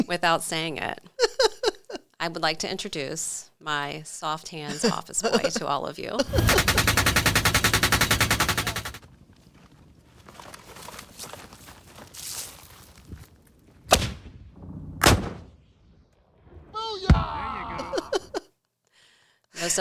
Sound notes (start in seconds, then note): 1.0 laughs; 6.2 machine gun fire; 13.9 hand grenade explodes; 13.9 missile launches